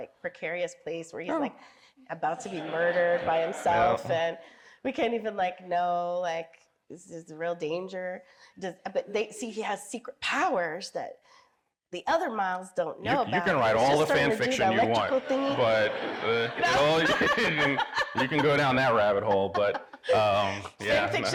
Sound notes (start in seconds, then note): 2.4 audience laughing; 14.8 everyone laughing